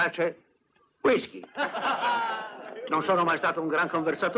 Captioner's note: laughing